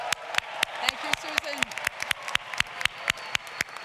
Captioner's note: applause